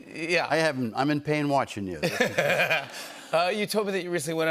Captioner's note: laughter